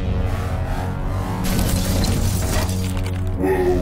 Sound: buzzing ascends; metal clanging

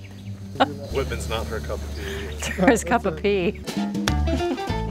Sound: laughter

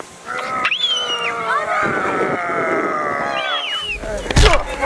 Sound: screams; groans

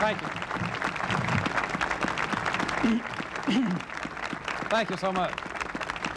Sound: crowd applauding

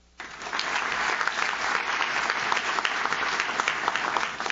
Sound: audience claps

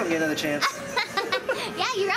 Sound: laughing

